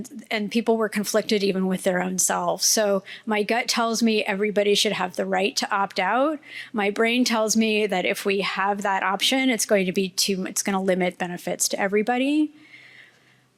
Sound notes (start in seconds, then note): none